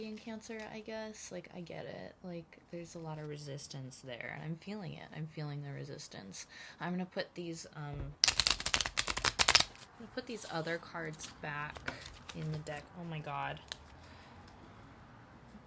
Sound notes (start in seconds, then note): 10.3 shuffling